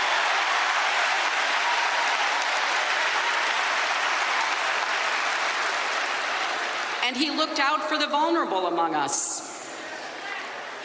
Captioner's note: applause